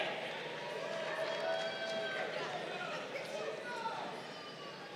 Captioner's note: crowd cheering